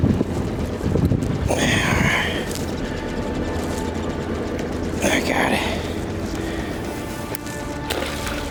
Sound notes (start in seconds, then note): 1.6 wind gusting